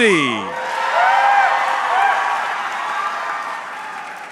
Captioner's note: audience cheering